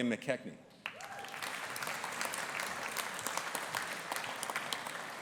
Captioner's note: audience applauding